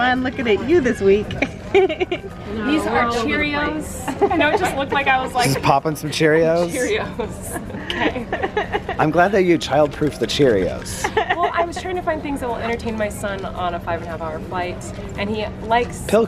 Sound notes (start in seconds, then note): 0.8 laughs; 4.0 laughter